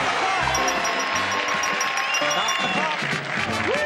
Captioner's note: audience cheers; bell rings